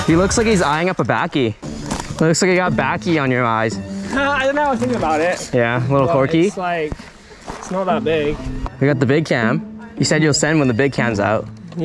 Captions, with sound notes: - He looks like he's eyeing up the backie. Looks like you got backie on your eyes. - (laughs) I don't know, I was thinking about it. - Yeah, a little quirky. - It's like, it's not that big. - I got the big cam. You said you'll send when the big cam's out.